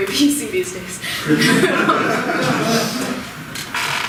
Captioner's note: all laugh